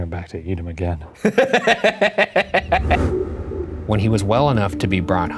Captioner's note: laughs